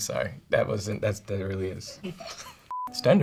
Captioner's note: chuckles